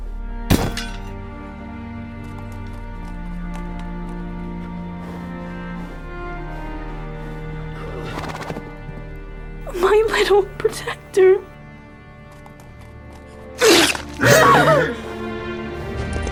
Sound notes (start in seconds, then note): 13.6 knife pulling from flesh; 14.2 Iliya screams